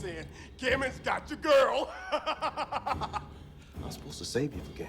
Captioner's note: laughs